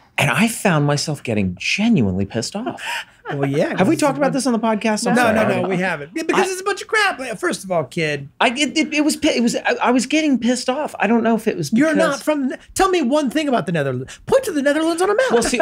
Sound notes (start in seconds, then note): 3.2 laughs